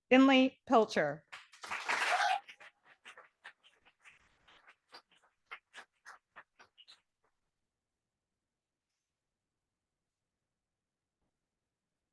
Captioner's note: audience applauding